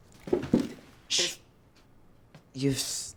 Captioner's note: shushes